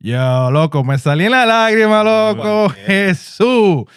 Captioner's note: speaking In Foreign Language